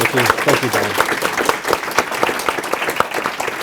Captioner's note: applause